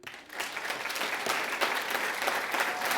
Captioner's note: audience applauds